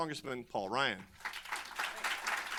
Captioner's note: applause